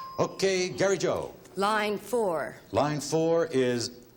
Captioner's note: ding